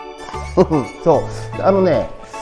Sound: laughs

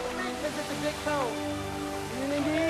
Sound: men talking happily

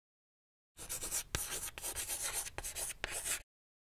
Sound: chalk scratching

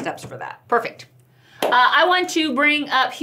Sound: hands clap

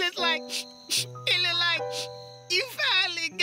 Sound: sniff; sniffing

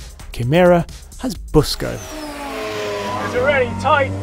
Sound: car engine roars

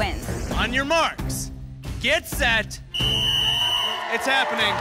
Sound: whistle

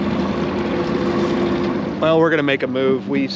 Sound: motor revving

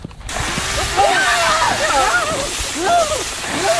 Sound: screaming

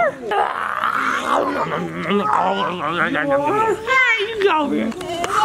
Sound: animated chewing

